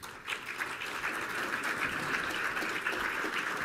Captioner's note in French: Applaudissements